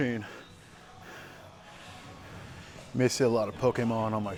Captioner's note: heavily breathing